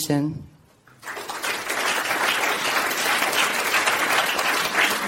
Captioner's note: audience claps